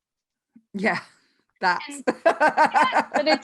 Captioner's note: laughing